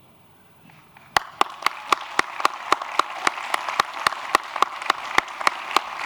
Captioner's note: applause